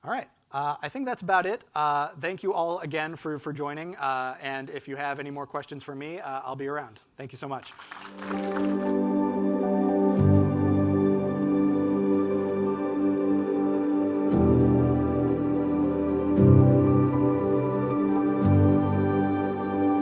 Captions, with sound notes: All right, I think that's about it. Thank you all again for joining and if you have any more questions for me, I'll be around. Thank you so much. (audience clapping) (gentle music)